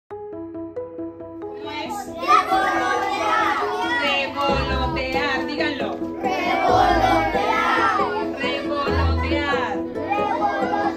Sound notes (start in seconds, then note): 0.2 upbeat music; 1.7 all speaking in a foreign language